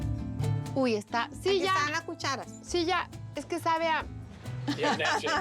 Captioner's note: speaking Spanish